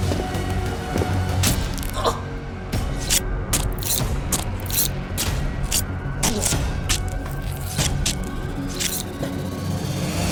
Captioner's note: blade tearing flesh